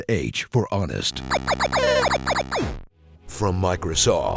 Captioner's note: glitchy sound effects